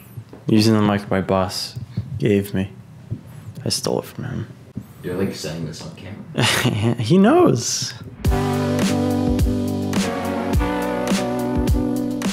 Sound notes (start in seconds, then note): 6.4 chuckling; 8.2 light music